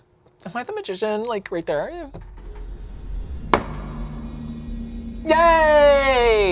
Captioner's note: knocks once